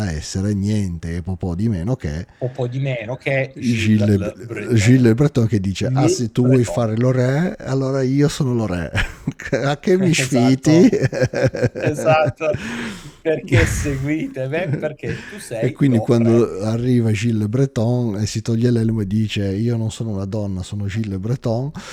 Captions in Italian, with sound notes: essere niente e po' di meno che po' di meno che Gill Breton che dice "Ah, se tu vuoi fare, allora io sono re. A che mi sfiti?" [risate] Esatto. Perché seguite? Perché tu sei E quindi quando arriva Gill Breton e si toglie l'elmo e dice io non sono una donna, sono Gille Breton